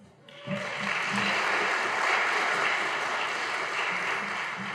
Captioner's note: audience applauding